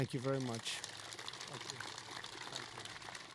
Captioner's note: applause